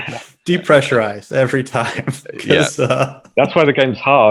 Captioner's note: laughs